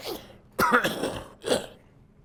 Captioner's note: coughs